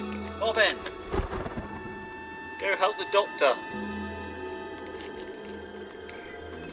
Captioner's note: strained